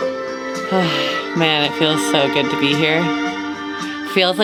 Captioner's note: sighs